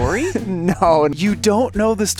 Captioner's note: laughs